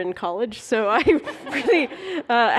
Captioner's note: laughter